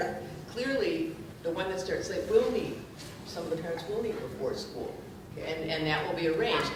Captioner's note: speaking softly